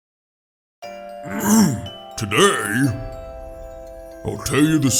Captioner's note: clears throat